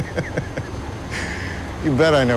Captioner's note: laughs